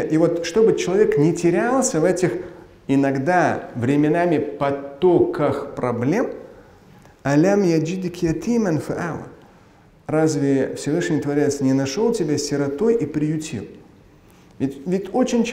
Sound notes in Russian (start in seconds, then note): 6.4 говорит на арабском